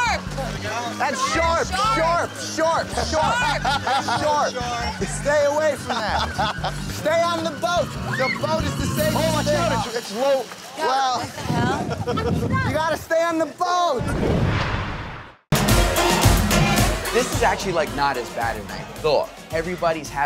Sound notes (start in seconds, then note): 0.0 quirky music; 5.6 laughing; 8.6 yelling; 10.5 yelling; 14.0 whooshing; 15.5 dance music